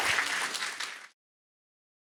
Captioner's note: applause